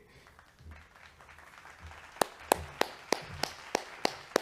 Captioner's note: graduands clapping